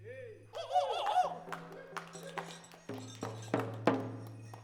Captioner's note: people whoop and clap